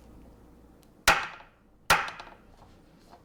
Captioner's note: spoon smacks on cutting board